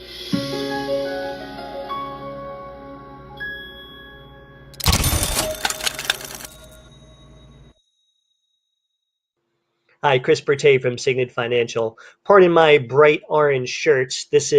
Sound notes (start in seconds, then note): 0.9 light piano music; 4.8 computer dings